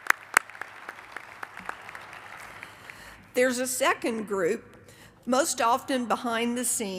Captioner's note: applause